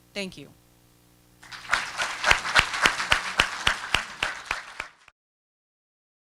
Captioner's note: applause